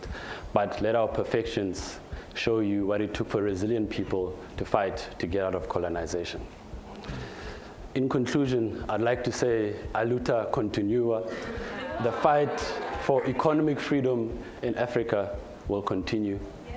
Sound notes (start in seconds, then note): 10.5 foreign language